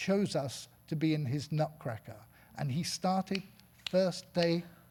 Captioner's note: snapping